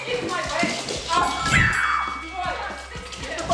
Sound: bell chimes

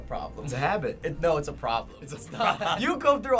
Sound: laughter

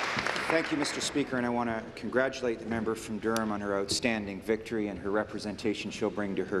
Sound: applause

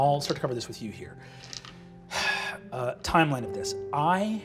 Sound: sighs

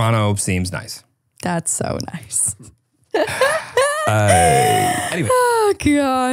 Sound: laughs

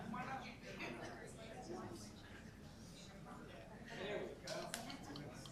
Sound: group chatter

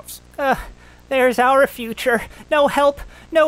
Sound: groans

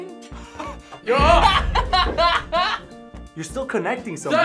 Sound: both laugh

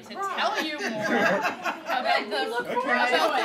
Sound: laughter

